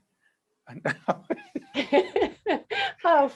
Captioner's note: laughing